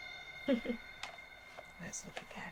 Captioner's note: Tilly chuckling